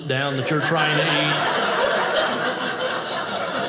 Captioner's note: audience laughing